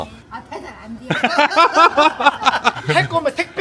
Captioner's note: laughs